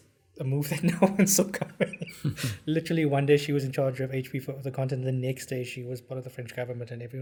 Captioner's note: laugh